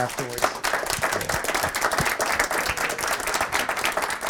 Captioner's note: audience applauding